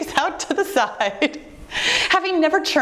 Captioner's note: giggling